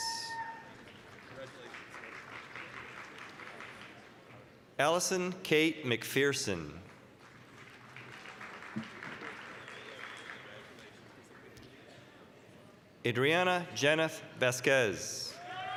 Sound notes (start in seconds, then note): 0.0 applause, cheering; 6.8 applause; 15.3 applause, cheering